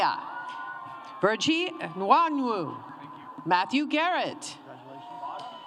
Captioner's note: cheering and applause